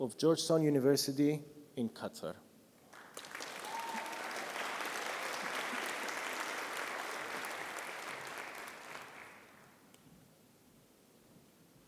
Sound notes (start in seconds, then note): 2.9 audience applauding